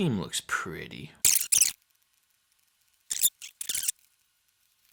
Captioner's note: scratching